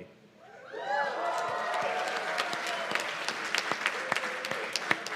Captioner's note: cheers and applause